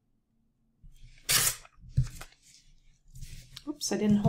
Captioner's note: paper ripping